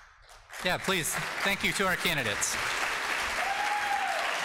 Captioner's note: audience applauding